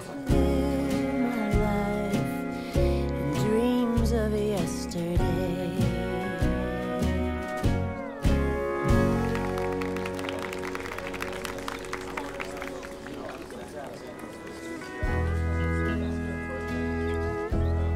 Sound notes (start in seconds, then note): 8.9 audience applauding; 14.2 romantic country music